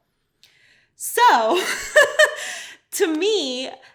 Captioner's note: laughs